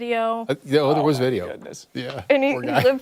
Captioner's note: laughter